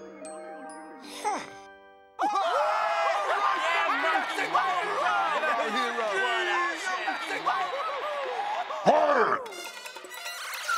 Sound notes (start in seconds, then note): 2.2 everyone cheering